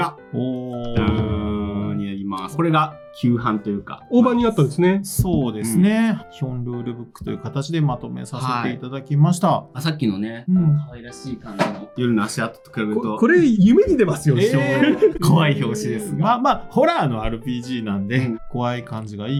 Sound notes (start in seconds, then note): 13.0 laughs